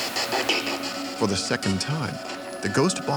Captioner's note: voiceover